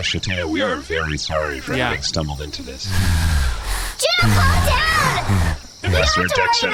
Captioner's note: Juno neighs loudly and aggressively